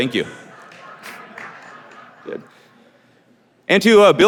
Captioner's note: audience laughing